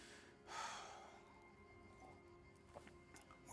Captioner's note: sighs